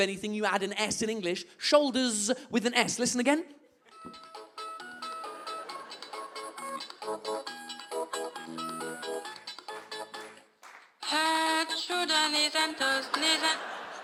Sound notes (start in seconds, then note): 4.2 melody starts again; 11.0 thick French accent